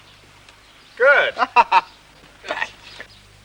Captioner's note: laughing